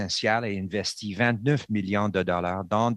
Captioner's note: speaking French